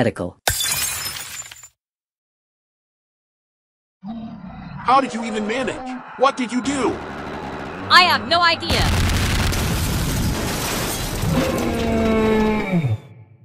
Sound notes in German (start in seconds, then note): 4.4 Leute schreien; 8.3 Kämpfe in der Ferne